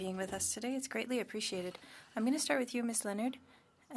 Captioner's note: speaking French